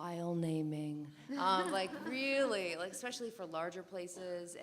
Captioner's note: laugh